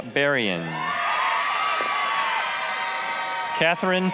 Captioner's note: applause, cheering